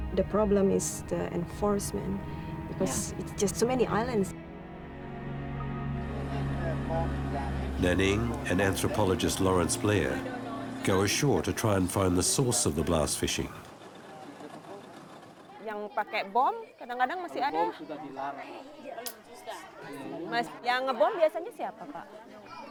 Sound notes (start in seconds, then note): 5.9 indistinct chattering